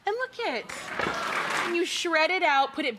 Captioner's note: audience applauds